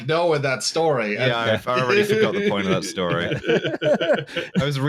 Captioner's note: laughter